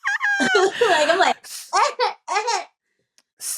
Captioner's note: imitates crying